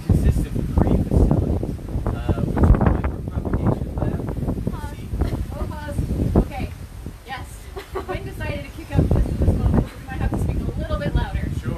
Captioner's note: wind noises